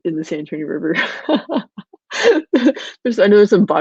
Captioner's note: laughing